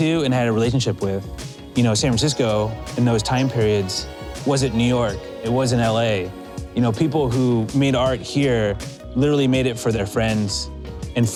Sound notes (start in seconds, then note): none